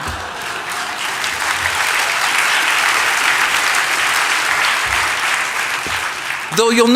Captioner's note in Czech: Potlesk